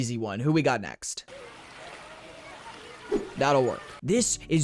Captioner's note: pool noises